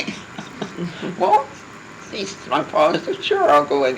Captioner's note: laughing